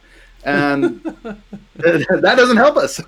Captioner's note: laughing